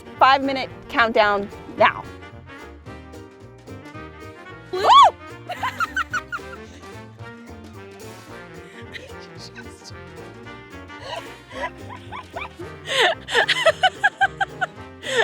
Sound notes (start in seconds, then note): 2.6 dramatic music; 4.7 shouts and laughs; 8.8 dramatic music